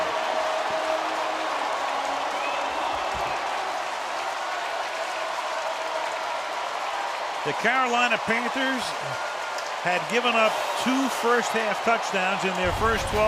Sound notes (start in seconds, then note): 0.3 cheering; 1.2 pa announcement